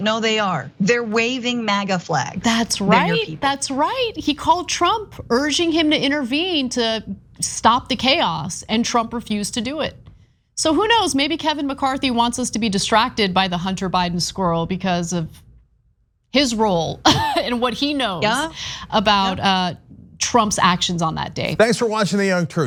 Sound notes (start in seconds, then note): 18.2 laugh